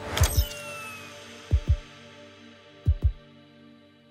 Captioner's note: helmet powers down